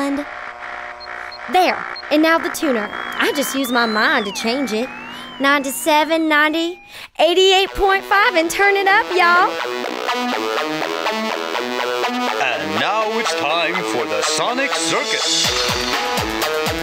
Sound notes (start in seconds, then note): 7.4 old timey radio